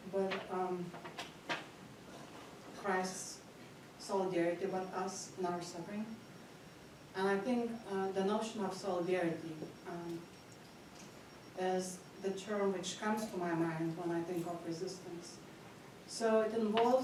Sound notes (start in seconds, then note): none